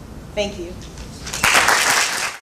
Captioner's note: applause